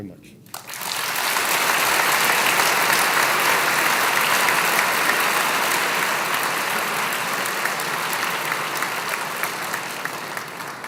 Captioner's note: applause